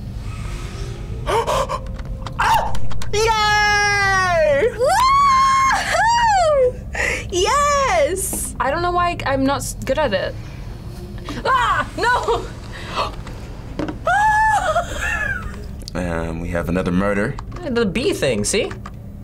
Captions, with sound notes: - (gasps) Oh! Yay! - WOOO-HOOO! Yes! - I don't know why I'm not good at it. Ah! No! (gasps) - And we have another murder. - The bee thing, see?